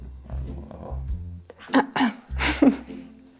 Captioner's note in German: Räuspern